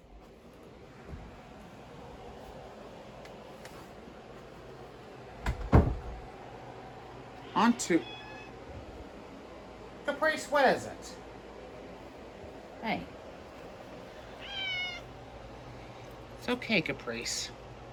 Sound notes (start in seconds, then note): 7.4 Caprice meows; 14.3 Caprice meows